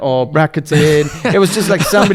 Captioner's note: laughs